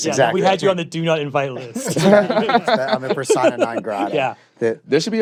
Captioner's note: laughter